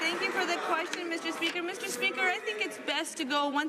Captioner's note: applause